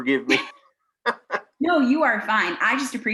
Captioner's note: laughing